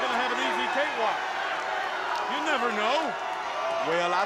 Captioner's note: applause